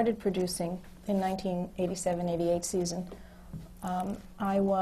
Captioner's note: none